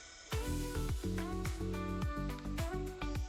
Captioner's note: paint whooshing; upbeat music